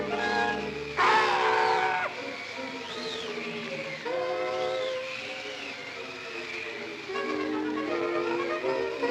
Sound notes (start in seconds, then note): 0.0 dramatic music continues; 0.0 wind whistling; 1.0 birds squawks; 2.6 soft suspenseful music; 2.6 wind whistling